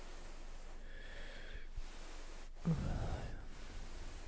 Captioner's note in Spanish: bosteza en francés